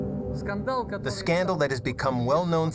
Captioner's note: speaking foreign language